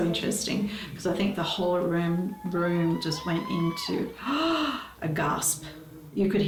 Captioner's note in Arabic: شهقة